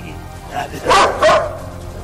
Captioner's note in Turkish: köpek havlama sesi̇